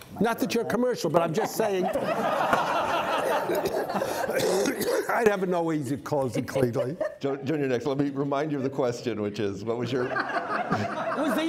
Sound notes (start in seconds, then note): 1.1 audience laughing